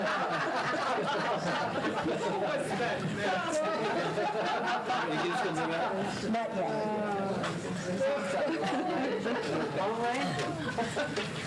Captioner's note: laughter